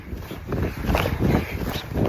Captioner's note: wind blowing